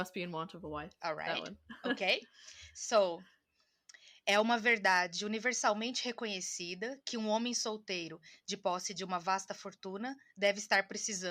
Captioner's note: reads first line in Portuguese